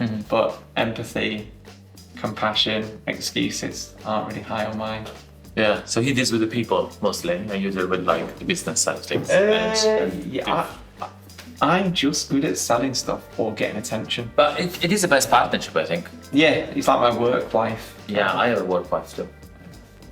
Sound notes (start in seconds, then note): 10.2 stammering